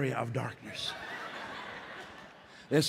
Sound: laughter

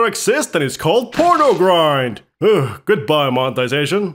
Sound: sighs

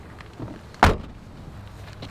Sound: trunk shuts

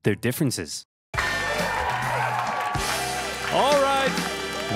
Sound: audience cheering

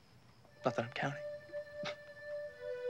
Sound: laughs quietly

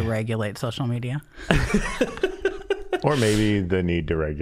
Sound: laughing

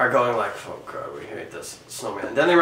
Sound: grumbles

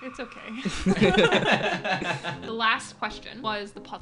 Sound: all laughing

